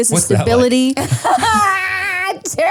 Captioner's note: all laugh